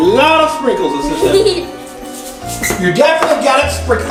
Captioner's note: assistant giggles